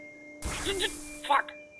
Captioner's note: zap